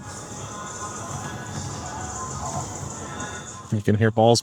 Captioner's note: arena natural sounds